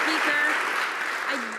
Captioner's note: some Applause